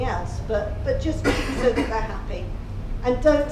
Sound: audience member coughing

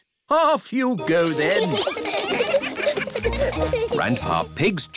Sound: giggling

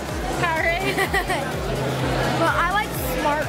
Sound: laughing

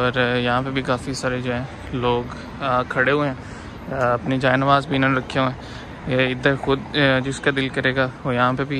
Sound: people's voice

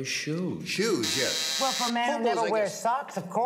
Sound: buzzer

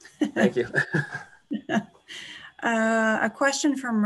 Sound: laughs

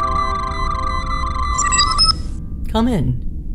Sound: door chime

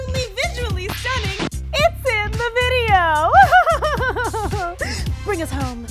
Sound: laughs

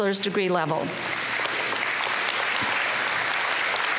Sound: applause

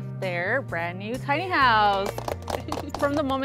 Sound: everyone clapping

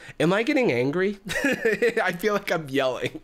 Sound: laughs

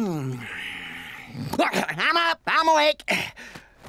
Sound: sighs, mumbles; gasps

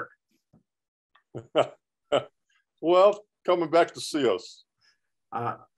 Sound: chuckling

